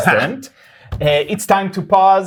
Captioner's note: laughs